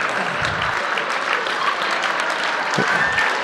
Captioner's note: applause